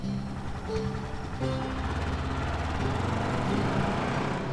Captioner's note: engine rumbling